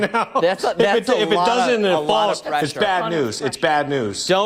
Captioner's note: laughter